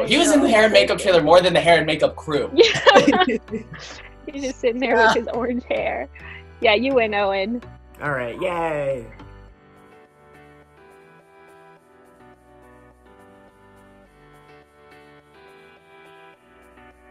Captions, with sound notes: He was in the hair and makeup trailer more than the hair and makeup crew. - Yeah. (laughing) - He was just sitting there with his orange hair. Yeah, you win Owen. - All right. Yay. (soft upbeat music)